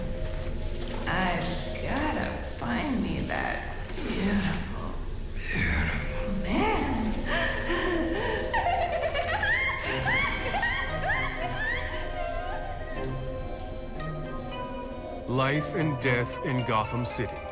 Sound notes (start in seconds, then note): 4.8 deep voice; 7.0 exhaling excitedly, laughing